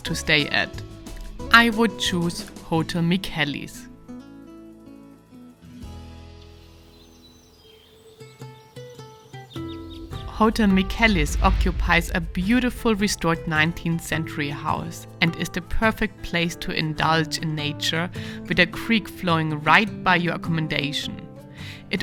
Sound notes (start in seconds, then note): 6.5 birds tweeting; 7.1 tranquil music